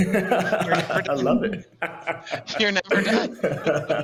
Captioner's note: laughs